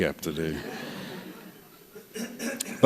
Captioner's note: laughter